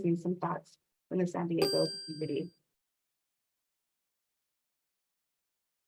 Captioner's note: bell chiming